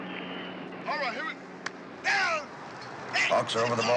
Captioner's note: referee shouting